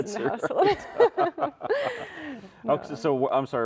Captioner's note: both chuckling